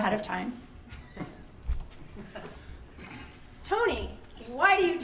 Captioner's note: laughing